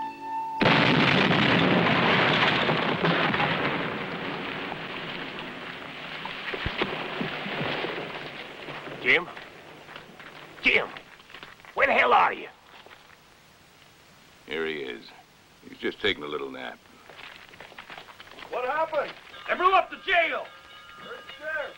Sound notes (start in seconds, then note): 0.6 explosion